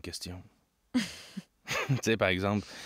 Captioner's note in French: rire d'Amidala